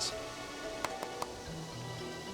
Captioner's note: clapping